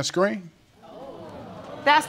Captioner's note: crowd gasping